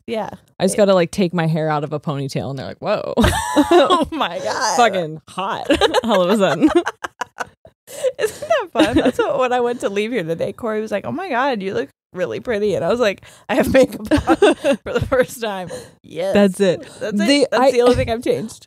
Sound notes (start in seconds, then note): 5.5 laughs; 5.6 both laughing